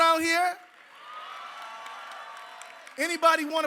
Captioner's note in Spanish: aplausos